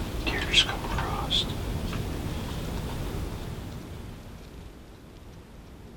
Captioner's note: whispering